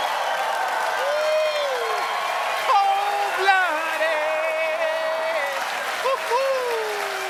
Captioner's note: cheers and applause